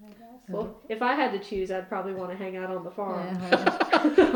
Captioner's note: laughs